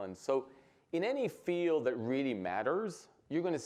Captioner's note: none